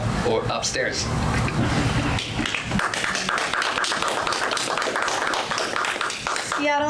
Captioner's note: audience applause